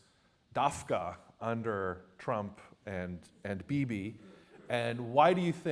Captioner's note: non-english